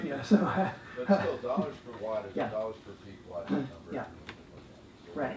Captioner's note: laugh